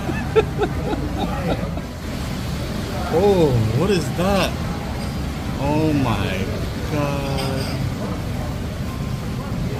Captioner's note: laughing